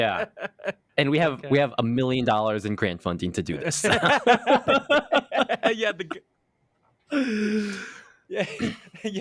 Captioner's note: laughs; laughs